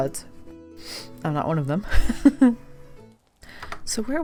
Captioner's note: laughs